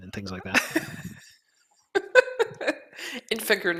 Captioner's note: laughter